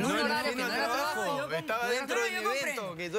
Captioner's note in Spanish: comentarios al unísono